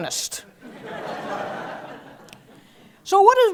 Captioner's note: laugh